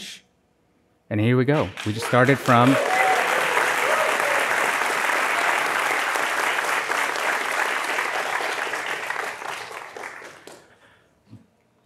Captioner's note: applause